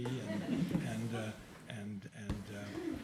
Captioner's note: chuckling